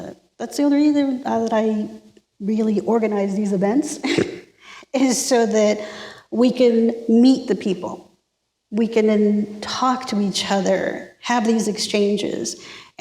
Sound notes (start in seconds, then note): 4.1 laughs